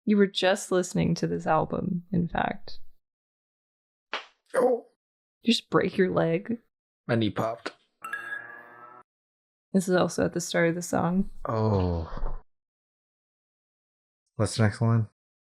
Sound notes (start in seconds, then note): 4.1 crack